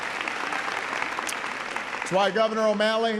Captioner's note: applause